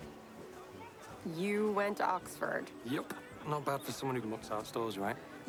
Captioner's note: none